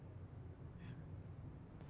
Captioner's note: whispers